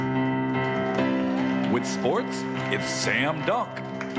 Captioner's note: crowd cheering